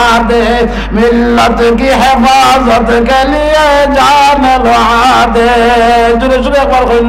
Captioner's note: Urdu poetry